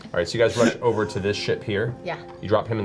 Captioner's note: all laugh